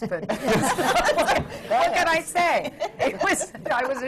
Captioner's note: laughter